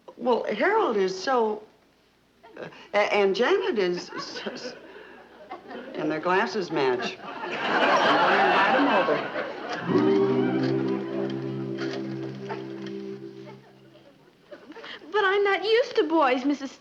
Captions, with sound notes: Well, Harold is so... And, Janet is... And their glasses match. (audience laughing) I'm going to invite him over. (quick musical dash) (telephone dialing) - But I'm not used to boys, Mrs. Stevens!